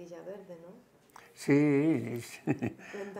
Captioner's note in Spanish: ríe